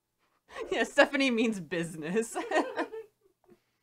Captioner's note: laughs as well